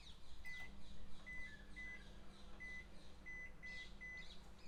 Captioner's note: microwave beeping